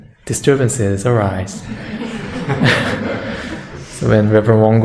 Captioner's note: audience laughter